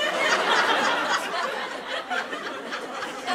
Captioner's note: laughter